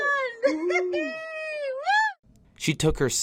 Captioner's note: laughing